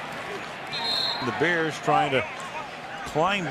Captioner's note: cheering; whistle